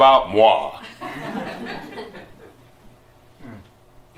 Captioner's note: laughter